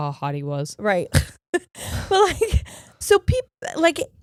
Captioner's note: chuckling